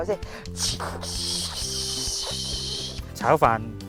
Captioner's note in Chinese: 扮煎魚聲